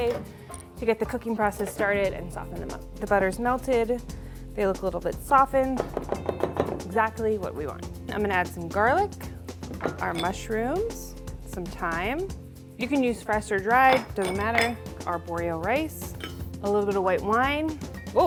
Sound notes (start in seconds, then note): 6.0 bowl clanging